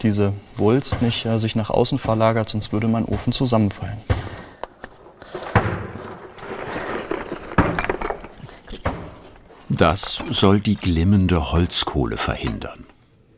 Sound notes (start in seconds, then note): 4.8 clattering